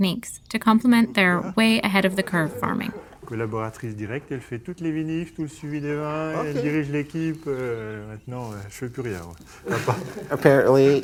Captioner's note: discuss in French